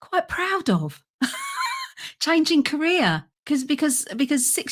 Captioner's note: laughs